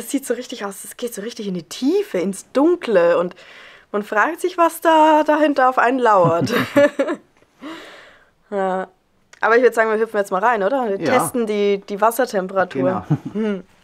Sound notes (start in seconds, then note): 6.2 laughter